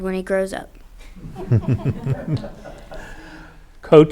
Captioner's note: group laughs